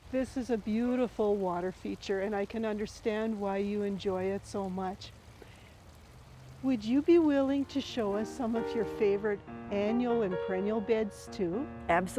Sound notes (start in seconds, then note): 5.2 water flowing